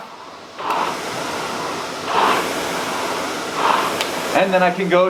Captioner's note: machine noises